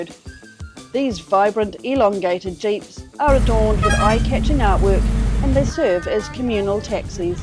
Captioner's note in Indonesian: klakson berbunyi